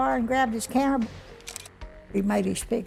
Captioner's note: camera shutters